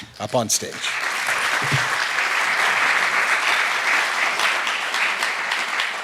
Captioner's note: applause